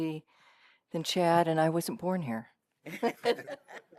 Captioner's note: laughter